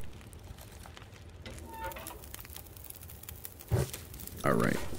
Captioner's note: fire Crackles